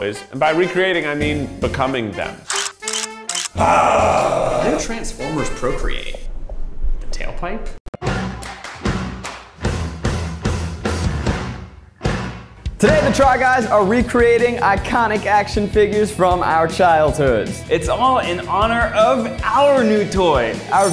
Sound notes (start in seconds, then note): 2.4 camera clicking; 3.5 roaring; 8.0 upbeat music